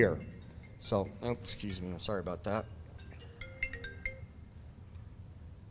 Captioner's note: phone ringing